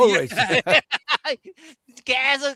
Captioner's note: laughing